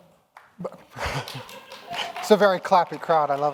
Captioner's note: audience clapping